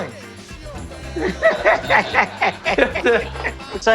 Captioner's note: laughter